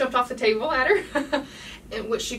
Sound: the lady laughing

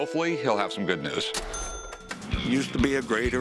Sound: ring

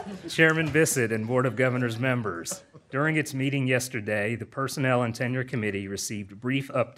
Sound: laughter

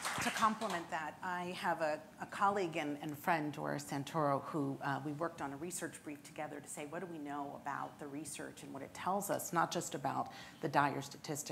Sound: applause

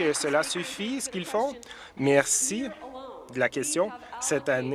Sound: applause

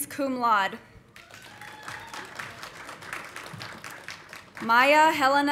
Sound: audience applauding

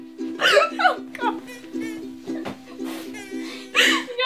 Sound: laughter

